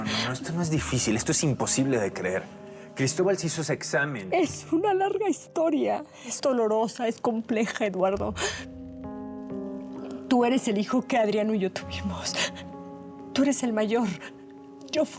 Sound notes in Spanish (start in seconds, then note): 4.8 sollozos